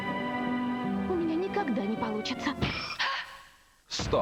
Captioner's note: knock